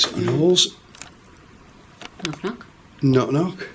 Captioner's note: soft knocks